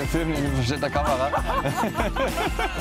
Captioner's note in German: lacht; Frau lacht